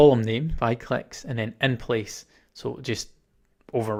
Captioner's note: 'Clicks'